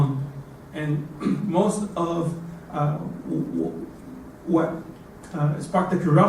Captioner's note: cough